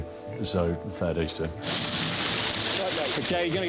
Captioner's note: water rushing